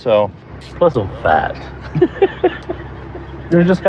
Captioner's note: laughs